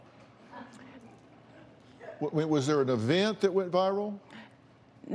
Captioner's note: light laughter